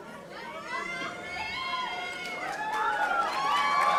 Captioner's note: audience cheering